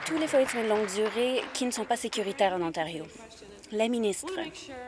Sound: applause

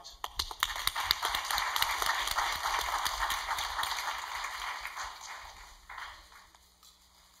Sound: applause

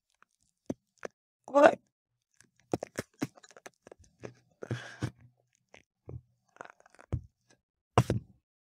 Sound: crunching noises

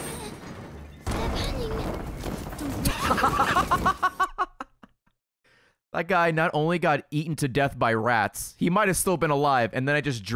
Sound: laughs

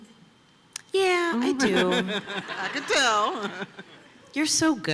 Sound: laughter

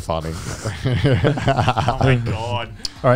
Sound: all chuckling

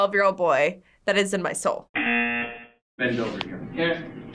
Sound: buzzer rings

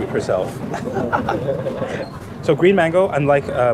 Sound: laughs

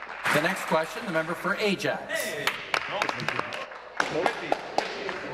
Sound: applause

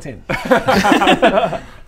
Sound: reckless giggles

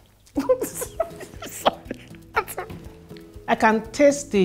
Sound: laughs

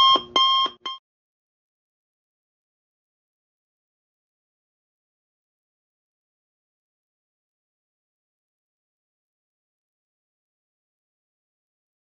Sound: silent

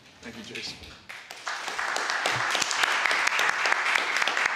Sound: applause

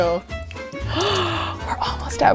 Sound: gasps

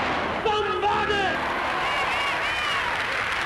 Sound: crowd cheers; crowd applauds

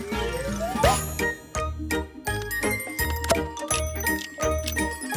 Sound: cheery upbeat music; pops; clicks

